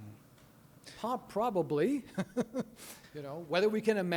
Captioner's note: chuckling